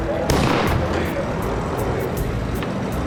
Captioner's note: car backfires